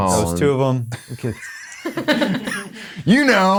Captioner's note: all laughing